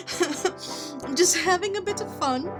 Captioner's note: laughing